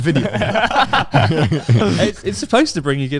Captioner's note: laughs quickly